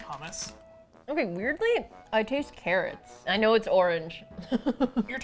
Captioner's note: laughs